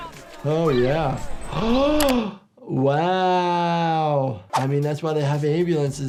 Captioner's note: gasps